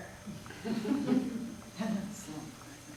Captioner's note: audience laughing